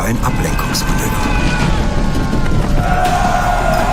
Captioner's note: cheering; screams